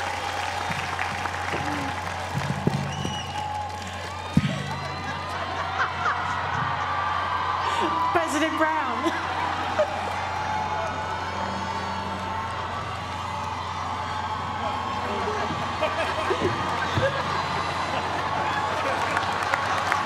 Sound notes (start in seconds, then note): 0.0 applause; 5.0 laugh; 9.1 laugh; 19.8 applause